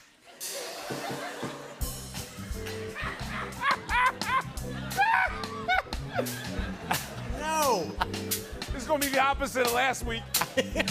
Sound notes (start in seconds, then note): 0.2 light laughter; 2.8 laughing